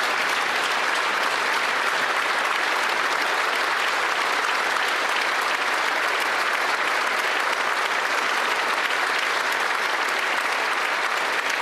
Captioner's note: some Applause